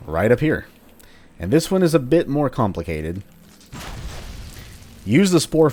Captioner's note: Fwooshes Spore Flower